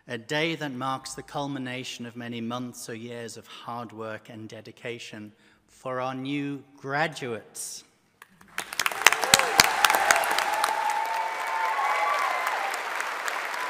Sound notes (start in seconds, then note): 8.4 audience applauding